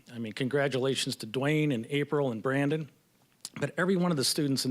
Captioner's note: none